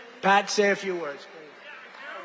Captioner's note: applause